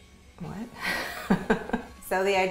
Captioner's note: laughing